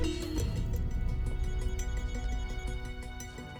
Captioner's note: ringing continues